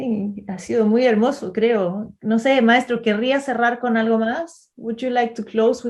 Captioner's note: speaking in Spanish